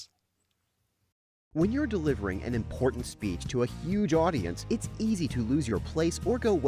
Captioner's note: voiceover